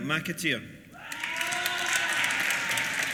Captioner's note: applause